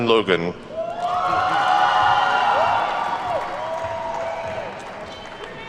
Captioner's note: attendees whooping and clapping